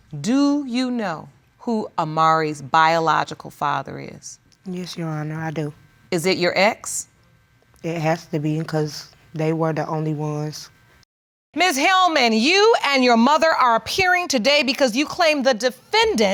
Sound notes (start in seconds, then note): none